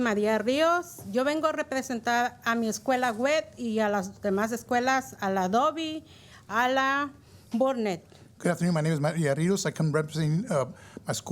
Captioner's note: speaking in spanish